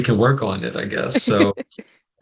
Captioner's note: brief laughter